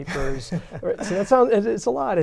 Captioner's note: laughter